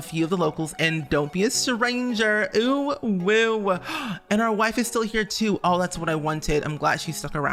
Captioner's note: gasp